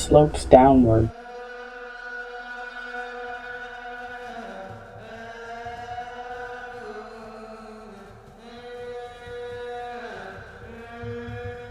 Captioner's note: voices calling